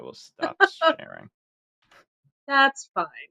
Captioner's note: laughs